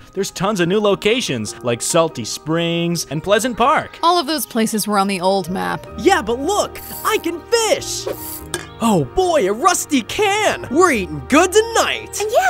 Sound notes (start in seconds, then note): 6.8 reel winding; 8.4 can thuds